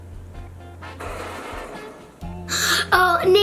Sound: wheels spin

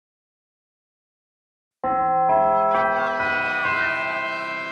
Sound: bell chimes

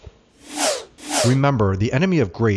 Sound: air whooshing

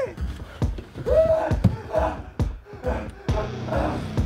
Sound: gory popping sound; Dave groaning; dramatic tense music

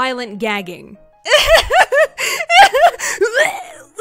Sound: laughs nervously; gagging

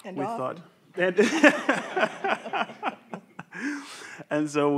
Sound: everyone laughs

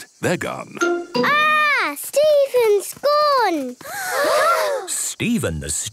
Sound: gasps

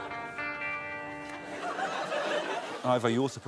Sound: laughs

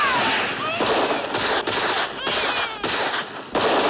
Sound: baby crying

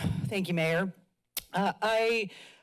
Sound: sigh; clicks tongue

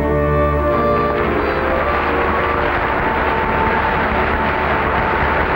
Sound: audience applauding

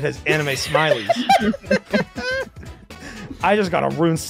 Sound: laughter

